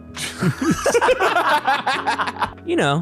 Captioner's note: all laughing